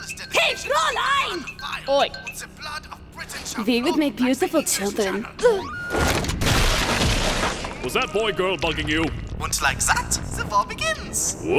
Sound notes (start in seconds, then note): 6.3 bam!; 7.1 Squish